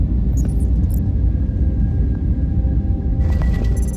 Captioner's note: digital beeping